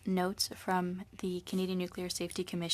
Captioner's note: speaking French